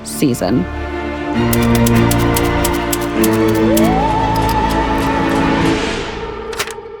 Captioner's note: ominous music; typewriter clicking